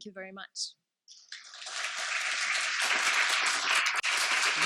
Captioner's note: applause